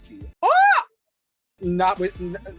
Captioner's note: yelling loudly